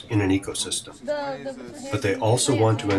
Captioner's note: chatter